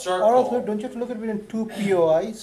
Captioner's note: voiceover